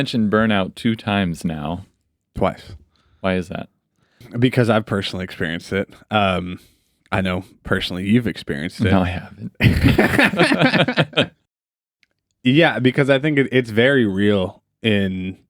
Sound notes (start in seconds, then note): 11.5 both laughing